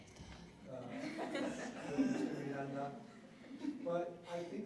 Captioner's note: laughter